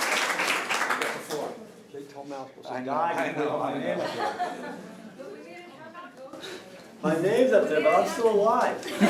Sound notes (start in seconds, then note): 2.5 indistinct conversation